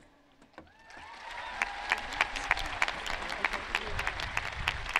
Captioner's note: audience cheering